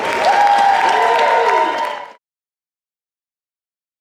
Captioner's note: cheers and Applause